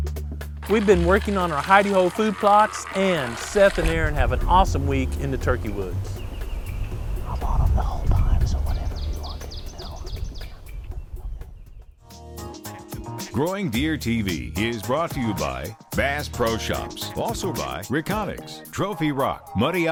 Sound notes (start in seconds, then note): 6.7 whispering